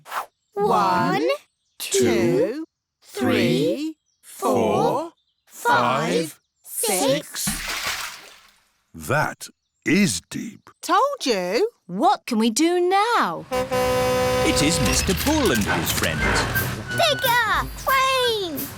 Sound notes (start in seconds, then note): 7.2 splash; 13.4 horn honks